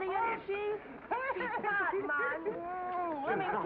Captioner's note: Ma laughs